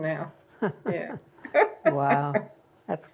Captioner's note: laughter